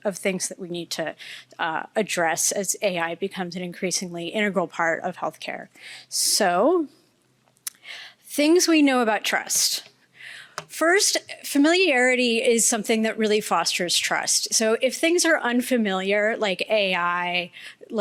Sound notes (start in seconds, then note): none